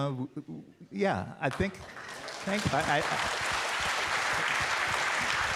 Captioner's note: audience applauding